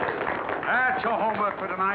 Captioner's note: applause